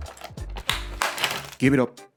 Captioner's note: prying pops